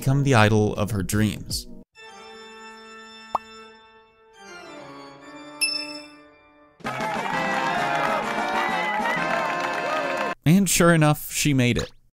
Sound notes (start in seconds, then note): 6.8 cheering crowd